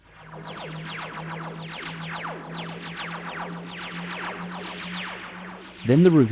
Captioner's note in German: TARDIS Dematerialisierungston